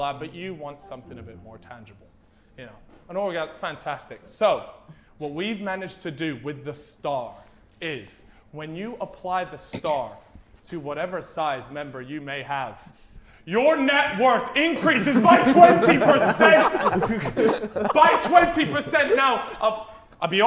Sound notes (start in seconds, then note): 14.8 Sidemen laughing